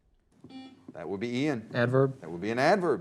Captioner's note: buzzer